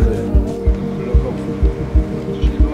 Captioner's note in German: Leises Stimmengewirr